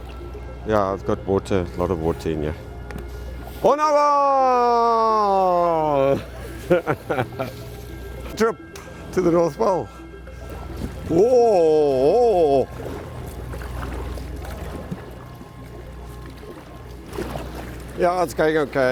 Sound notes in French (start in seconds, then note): 6.1 rires